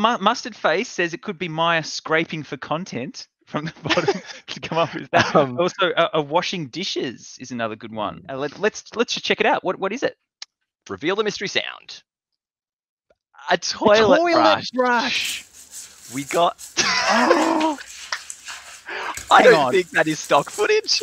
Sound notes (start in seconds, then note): 4.0 stutters; 16.7 laughing; 16.8 exclaiming